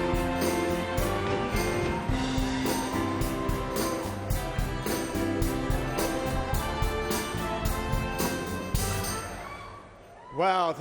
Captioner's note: cheers and applause